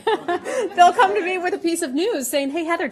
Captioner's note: laughter